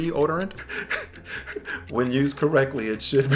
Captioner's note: laughs